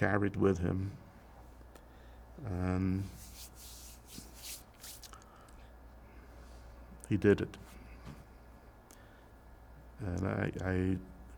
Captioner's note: pauses 6 seconds